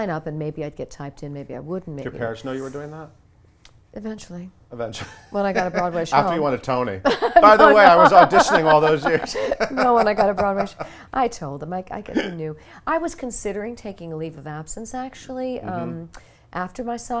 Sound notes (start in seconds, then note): 7.1 laughs